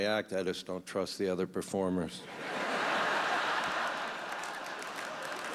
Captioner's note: laughter